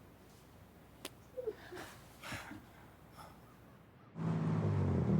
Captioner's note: both chuckling; fists tapping; engine rumbling